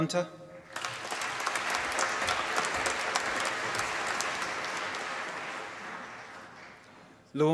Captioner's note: applause